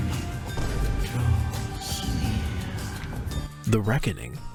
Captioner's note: door opens